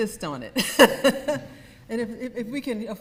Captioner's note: laughs